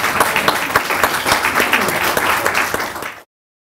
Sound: clapping

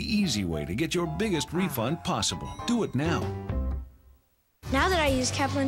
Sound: none

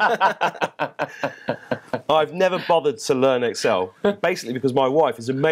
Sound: laughter

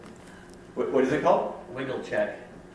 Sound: voiceover

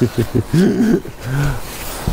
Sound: laughing

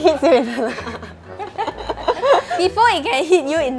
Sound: laughs

